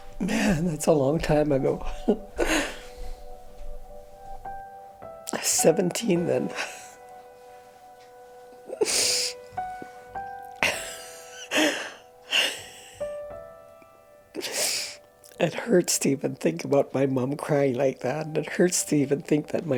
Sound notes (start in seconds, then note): 11.2 crying